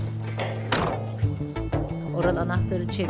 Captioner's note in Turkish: Kapı kapanma sesi